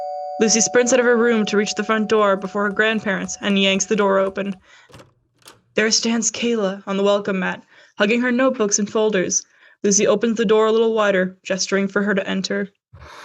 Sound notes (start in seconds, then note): 0.0 doorbell rings; 5.1 door opens